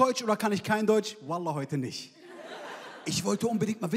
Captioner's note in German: Gelächter